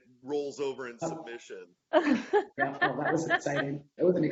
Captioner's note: laughing